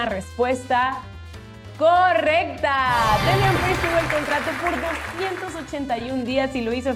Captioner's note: applause